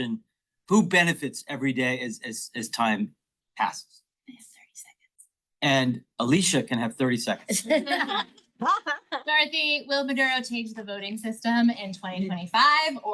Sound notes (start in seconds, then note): 7.5 all laugh